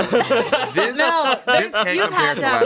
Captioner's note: everyone laughs